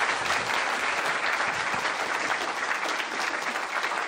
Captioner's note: applause